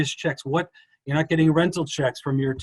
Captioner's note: none